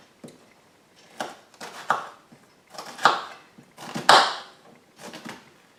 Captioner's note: chopping onion